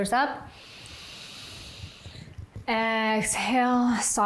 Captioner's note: inhales